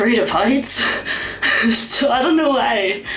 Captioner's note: laughs in fear of my life